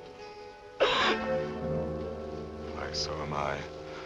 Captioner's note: collapses sobbing